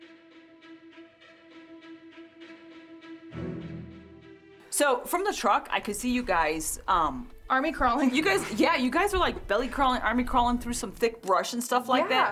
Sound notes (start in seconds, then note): 0.0 suspenseful music; 5.0 normal voice